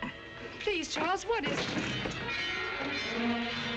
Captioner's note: clattering